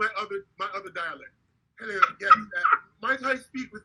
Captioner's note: laughing